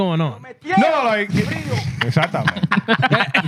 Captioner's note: speaking In Foreign Language